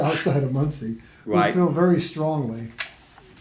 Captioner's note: laughs